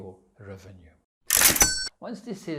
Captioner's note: cash register sounds